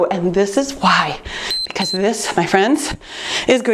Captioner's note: timer beeps